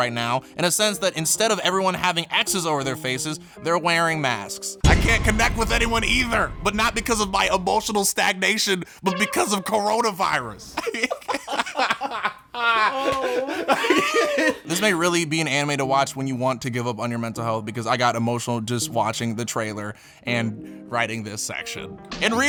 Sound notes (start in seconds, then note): 10.7 both laughing